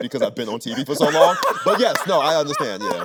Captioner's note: Anthony laughing